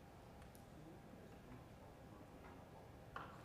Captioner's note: none